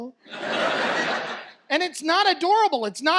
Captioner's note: audience laughs